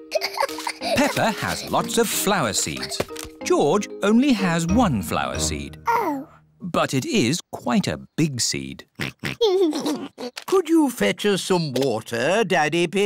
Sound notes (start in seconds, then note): 0.1 giggles; 8.9 oinks and giggles